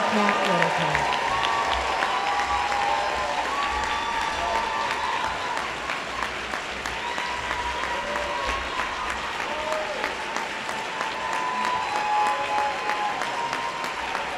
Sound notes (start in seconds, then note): 0.0 applause